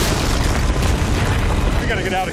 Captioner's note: loud cracking